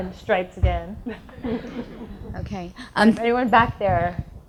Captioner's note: audience laughs